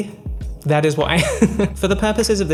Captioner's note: laughs